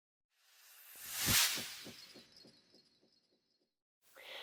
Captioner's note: sound effect